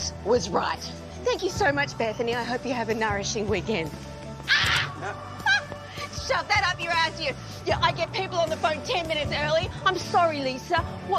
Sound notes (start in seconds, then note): 4.5 laughs